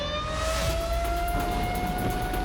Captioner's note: sirens wail